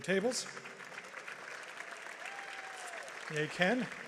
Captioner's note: audience applauds